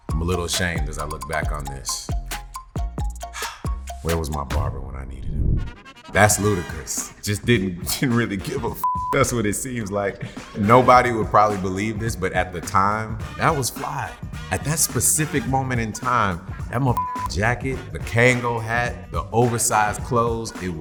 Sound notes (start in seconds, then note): 2.2 upbeat music; 3.3 sighs